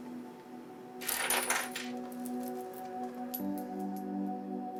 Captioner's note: metal clanking